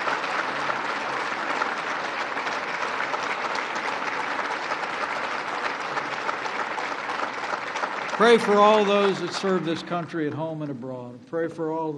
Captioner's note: applause